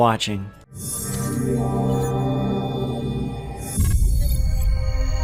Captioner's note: futuristic sounds